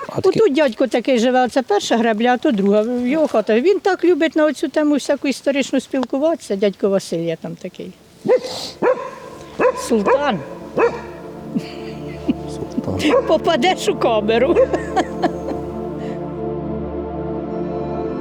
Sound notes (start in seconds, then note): 8.2 the dog continues to bark